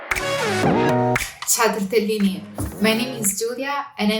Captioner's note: speaking foreign language